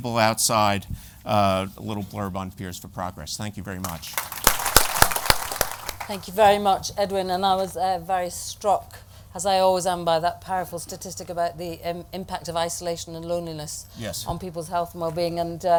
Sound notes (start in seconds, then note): 3.8 applause